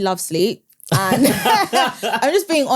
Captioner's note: everyone laughs